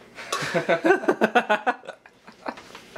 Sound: laughing

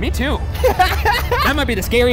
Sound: laughing

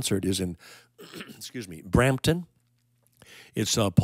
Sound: clears throat

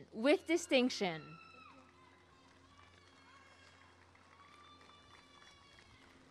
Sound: applause and cheering

